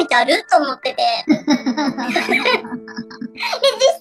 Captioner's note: laughs